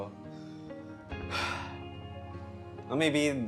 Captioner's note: sigh